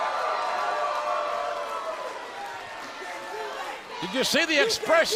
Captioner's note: crowd cheering